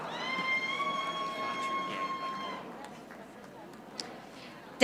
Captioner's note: audience applauding